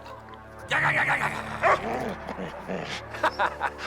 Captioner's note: Heep growling; Buck barks; laughing